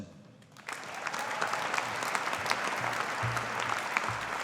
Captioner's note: audience applauding